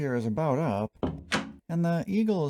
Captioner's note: door opening